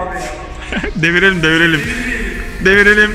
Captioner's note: laughing